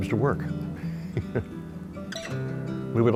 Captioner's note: chuckles